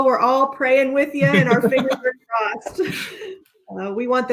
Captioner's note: laughing